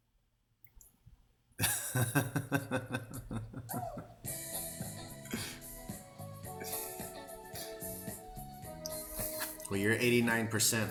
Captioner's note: laughter